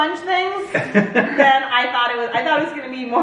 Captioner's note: laughs